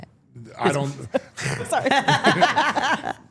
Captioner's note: chuckles; all laughing